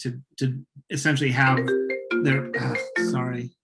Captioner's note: phone ringing